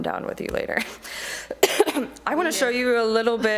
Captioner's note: coughing